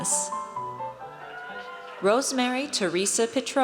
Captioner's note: audience cheers